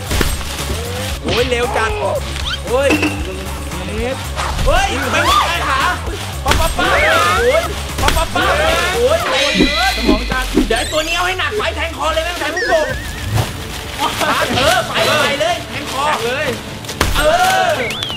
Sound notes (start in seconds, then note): 6.8 cheering